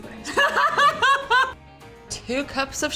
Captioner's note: laughs